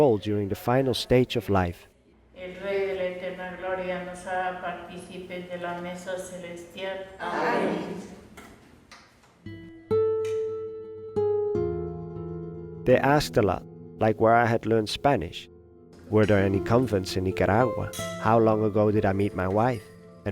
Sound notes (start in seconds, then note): 2.4 speaking foreign language; 9.5 pensive music